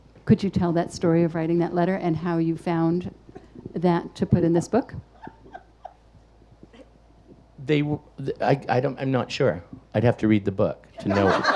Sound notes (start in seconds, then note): 5.1 audience laughing